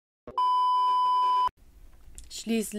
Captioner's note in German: Piep-Ton